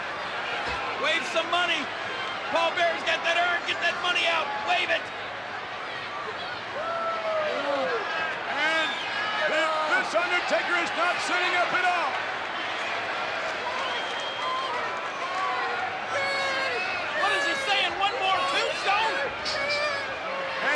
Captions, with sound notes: Wave some money. Paul Bearer's got that urn. Get that money out. Wave it. And this Undertaker is not sitting up at all. (crowd clamors) (Paul cries out indistinctly) What's he saying? One more tombstone?